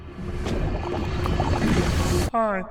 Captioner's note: rising noise